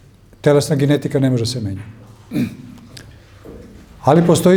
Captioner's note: coughs